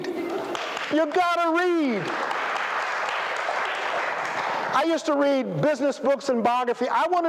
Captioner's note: applause